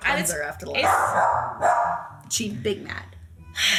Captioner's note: dog barking